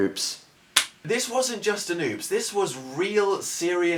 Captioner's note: claps